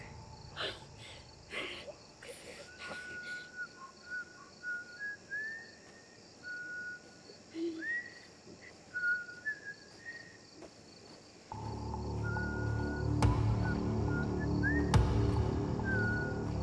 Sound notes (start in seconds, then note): 4.5 Aunspach whistles "I worked on the railway"